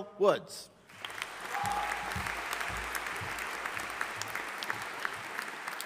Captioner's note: audience applauding